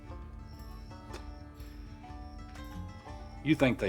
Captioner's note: Huck chuckles